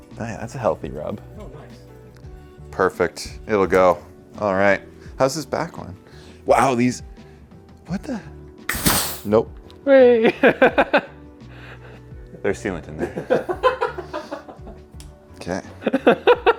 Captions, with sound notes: Hey, that's a healthy rub. Perfect, it'll go, all right. How's this back one? Wow, these- what the? (tire deflates) Nope. - Hey! (laughs) - There's sealant in there. (laughing)